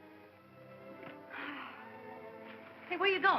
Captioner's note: Gail sighs